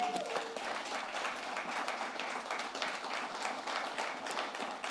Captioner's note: applause